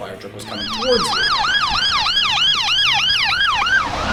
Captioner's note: sirens